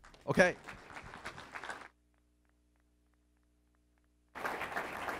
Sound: applause

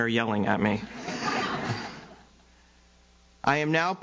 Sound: audience laughs

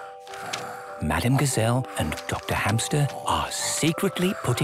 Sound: whispering

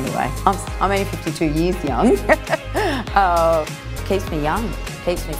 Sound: laughs

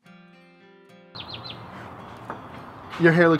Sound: bird chirping

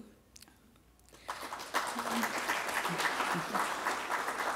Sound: applause

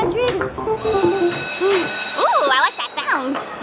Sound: bell ringing

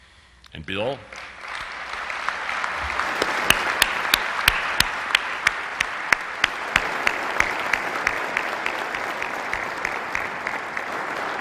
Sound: applause

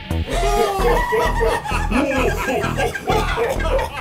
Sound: all laughing

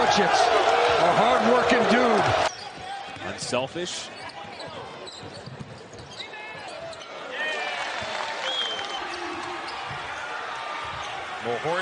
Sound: cheers and applause

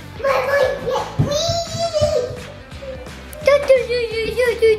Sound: yells; chatters

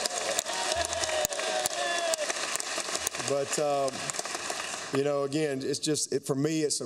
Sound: applause

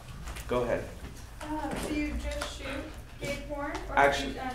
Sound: speaking off mic

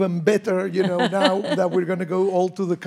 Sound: laughs

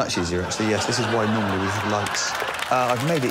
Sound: laughter

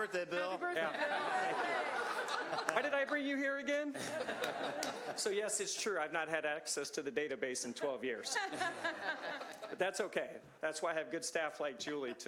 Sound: laughter

